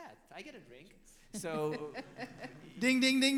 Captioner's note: laughs